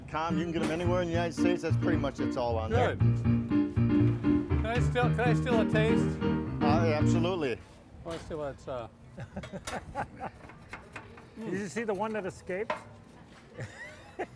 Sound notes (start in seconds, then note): 9.1 laughter; 13.6 laughs